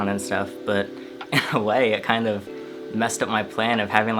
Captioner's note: chuckles